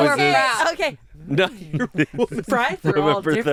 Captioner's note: laughs